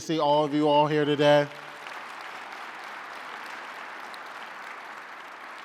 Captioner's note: audience applauding